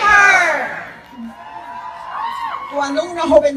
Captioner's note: cheers